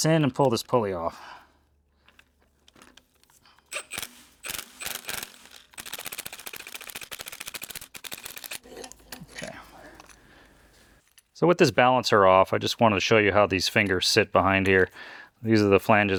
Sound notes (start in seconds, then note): 4.1 scraping